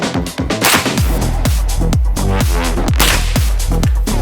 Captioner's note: gun firing